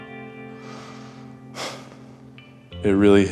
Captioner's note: sighing